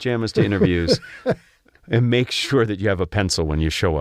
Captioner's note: laugh